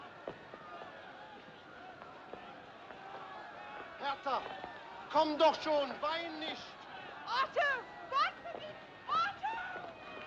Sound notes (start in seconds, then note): 4.0 Homem gritando em alemão; 8.3 Gritando em alemão